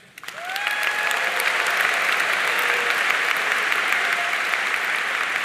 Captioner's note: audience cheering and applauding